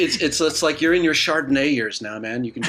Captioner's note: laughs